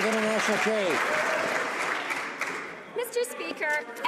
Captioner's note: some Applause